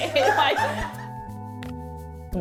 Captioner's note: laughter